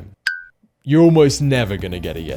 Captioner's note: bell dings